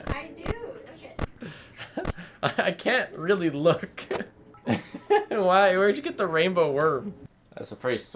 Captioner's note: laughs